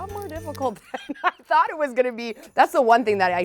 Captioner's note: laughs